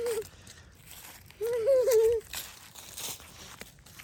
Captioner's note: chuckles